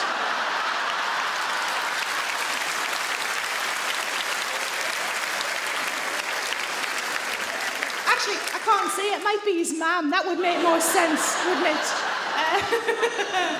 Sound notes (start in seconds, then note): 0.0 audience laugh; 0.0 audience clap; 10.4 laughs